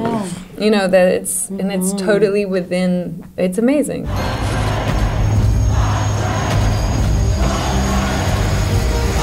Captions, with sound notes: - And it's totally within, it's amazing. (suspenseful music) (people shouting)